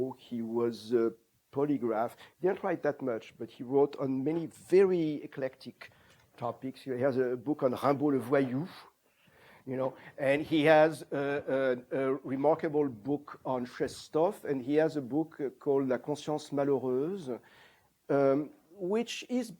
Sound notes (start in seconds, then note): 8.4 french